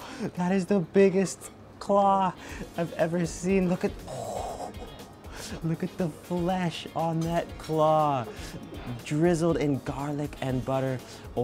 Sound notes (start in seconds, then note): 4.2 laughs